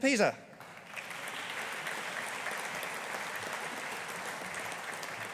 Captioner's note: audience applauding